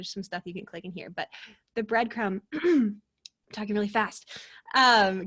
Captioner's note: clears throat